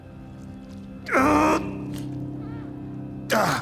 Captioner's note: grunting